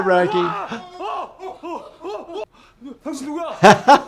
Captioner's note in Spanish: personajes gritando angustiados; hablando idioma extranjero